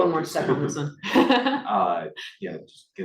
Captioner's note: laughs